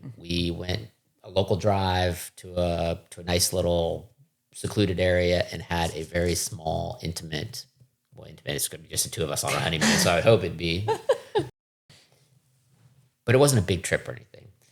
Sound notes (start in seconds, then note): 10.7 laughing